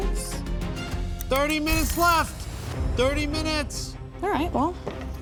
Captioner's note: timer ringing